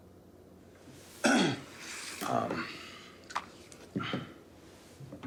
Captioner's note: throat clearing